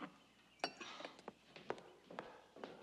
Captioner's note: sighs